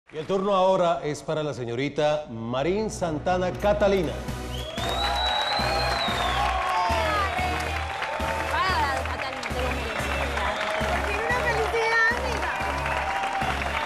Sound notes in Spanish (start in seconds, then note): 4.5 Aplausos y exclamaciones